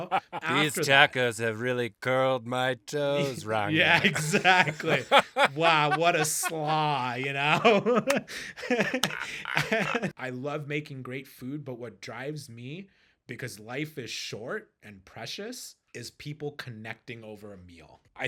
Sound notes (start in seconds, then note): 8.0 clapping